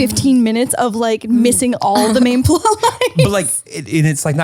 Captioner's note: laughs